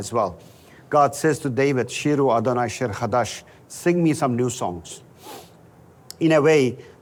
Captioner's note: Hebrew